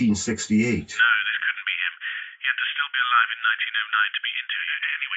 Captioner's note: on phone